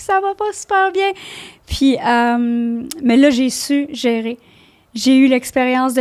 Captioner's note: in french